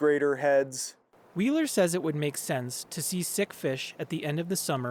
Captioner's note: voice-over